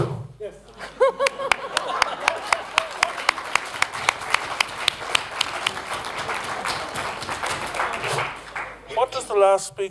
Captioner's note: applause